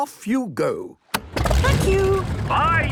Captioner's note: engine starting